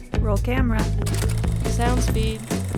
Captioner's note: camera whirs